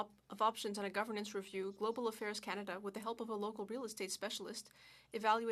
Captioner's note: speaking French